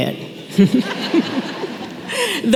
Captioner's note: laughter